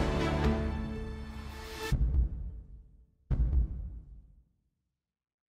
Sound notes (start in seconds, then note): 3.3 heartbeat pounding